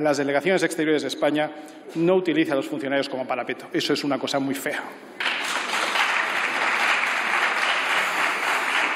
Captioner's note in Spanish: Aplausos